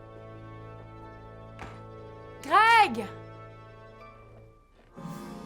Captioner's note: door closes